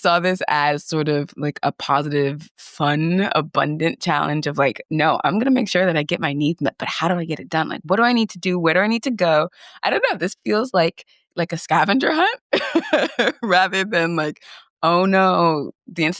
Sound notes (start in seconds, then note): 12.5 chuckles